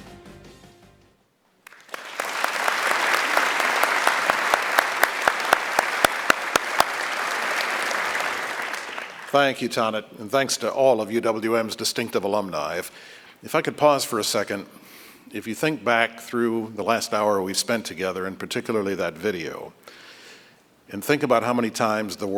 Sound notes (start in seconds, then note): 1.6 applause